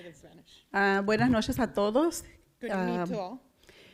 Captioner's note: foreign language